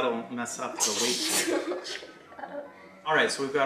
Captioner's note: laughs